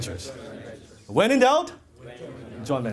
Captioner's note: audience Members In Unison